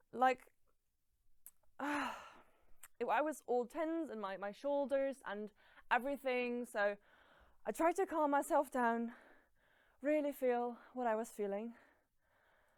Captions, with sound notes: It is like,- [sighs] I was all tense in my shoulders and everthing so,- I tried to calm myself down. Really feel what I was feeling...